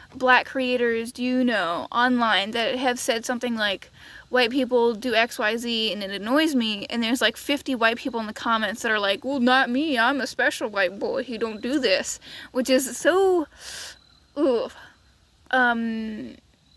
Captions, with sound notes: black creators do you know online who have said something like: "white people do XYZ and it annoys me" and there's like 50 white people in the comments that are like [mocking tone] "well not me I'm a special boy who don't do this." which is so... yugh Um.....